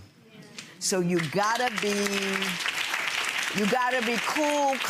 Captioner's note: audience applauds